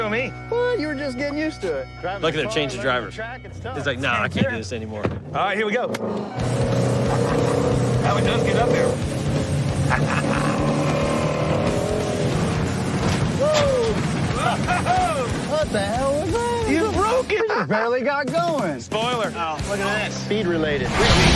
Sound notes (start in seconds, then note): 6.7 laughs; 9.8 laughs; 10.9 engine rumbling; 12.1 clanking